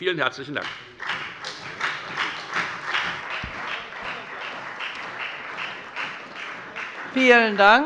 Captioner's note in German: Beifall bei der FDP und bei Abgeordneten der CDU